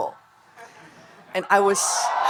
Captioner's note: audience laughing